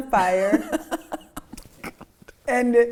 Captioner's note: laughing